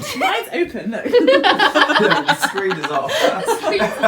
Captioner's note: laughter